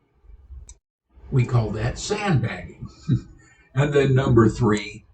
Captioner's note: laughs